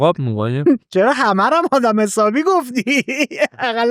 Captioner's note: laughs